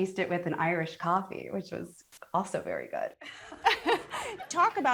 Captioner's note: laughs